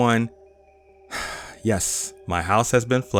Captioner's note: sigh